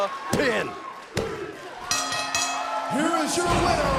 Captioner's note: bell ringing